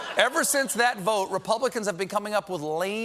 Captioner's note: laughter